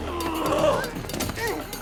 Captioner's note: groaning